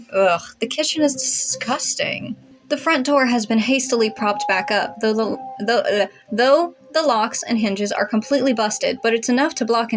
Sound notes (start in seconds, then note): 5.9 blubber